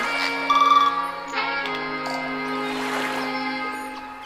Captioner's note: water splashing; birds chirping